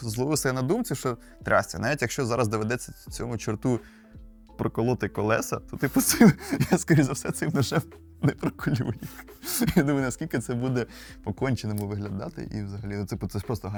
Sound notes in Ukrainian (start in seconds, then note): 6.0 сміх